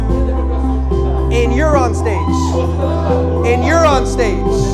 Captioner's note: crowd cheers